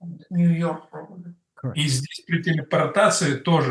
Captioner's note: Russian